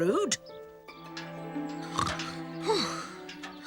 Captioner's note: snorting and panting